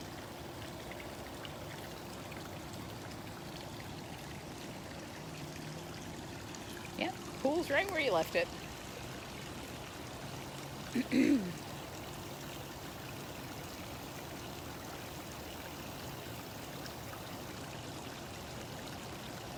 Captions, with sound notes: Yeah, the pool's right where you left it. [Cough]